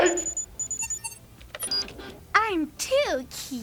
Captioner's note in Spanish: la computadora emite un pitido